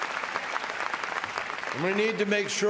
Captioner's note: applause